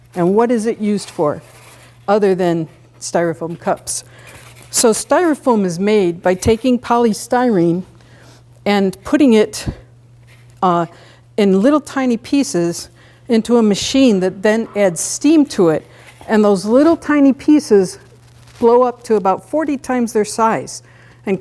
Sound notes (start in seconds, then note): none